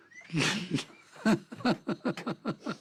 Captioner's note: laughing